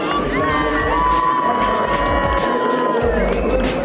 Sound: cheering

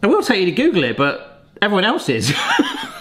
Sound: laughs

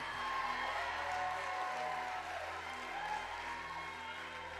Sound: congregation cheering

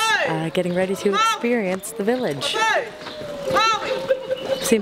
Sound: voiceover; voiceover

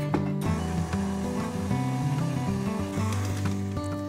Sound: mixer whirring

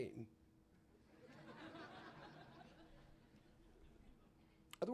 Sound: laughter

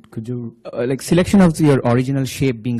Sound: voiceover

